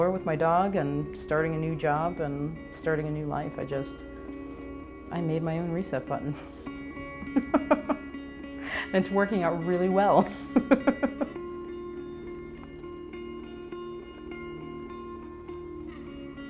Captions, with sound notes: with my dog and starting a new job and starting a new life. I just, I made my own reset button. (laughs) And it's working out really well.